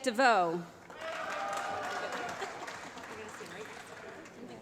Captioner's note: applause